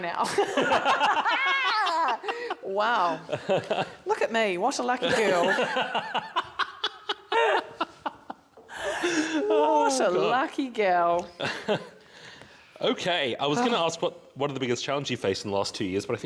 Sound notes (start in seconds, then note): 0.2 laughter; 5.1 belly laughs